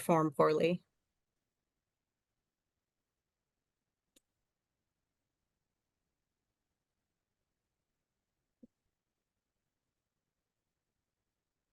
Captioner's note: video playing, no audio